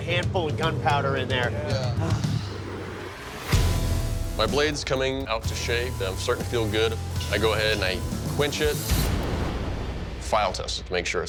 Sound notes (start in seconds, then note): 1.9 sighs